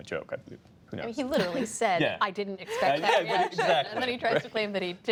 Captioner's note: laughter